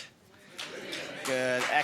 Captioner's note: audience applauding